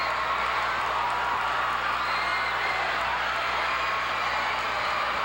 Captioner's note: audience cheering